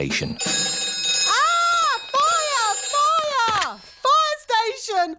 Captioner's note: rings